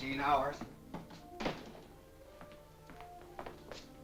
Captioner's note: door closes